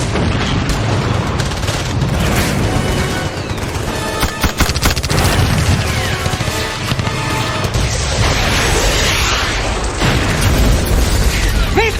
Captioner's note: sounds of the Battle